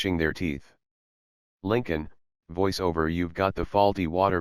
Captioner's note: voice-over